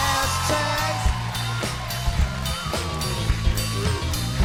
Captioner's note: cheers and applause